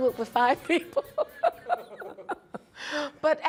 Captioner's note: laughing